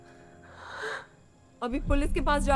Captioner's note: Sighs